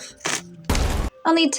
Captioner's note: explosion